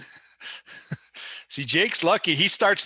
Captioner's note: snickering